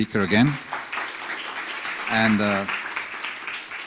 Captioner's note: audience applauds